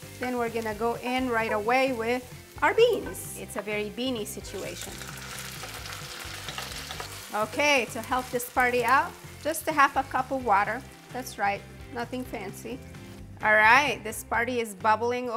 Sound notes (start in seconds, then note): 5.2 oil sizzling